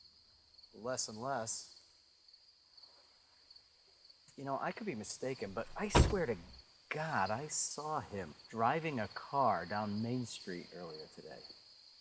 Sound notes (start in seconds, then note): none